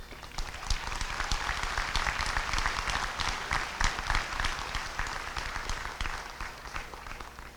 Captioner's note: applause